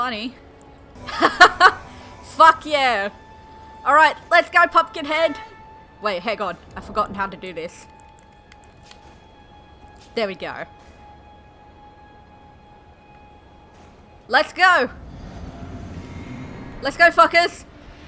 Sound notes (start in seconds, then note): 1.0 laughter